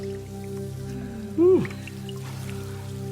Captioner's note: low somber music continues; contestant sighing; water splashing